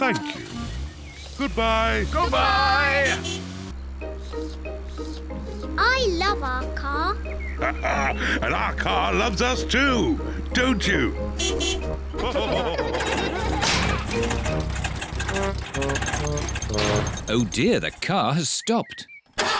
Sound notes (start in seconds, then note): 3.9 slurping; 7.5 laughs; 11.3 toots beeps; 12.1 all laugh; 12.6 engine sputters; 19.3 engine sputters